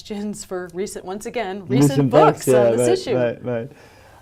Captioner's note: chuckles